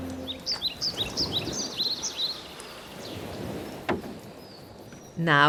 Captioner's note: birdsong